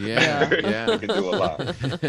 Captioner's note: chuckling